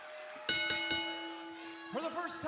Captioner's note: bell ringing